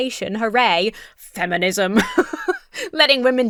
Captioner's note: laughs